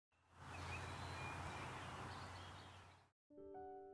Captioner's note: birds chirping happily; hopeful piano music